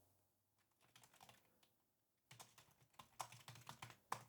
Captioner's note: keyboard clicking